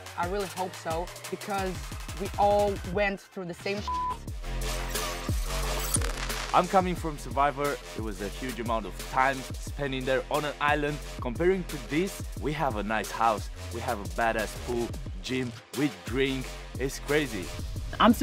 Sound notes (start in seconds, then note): 3.8 beep; 4.9 upbeat music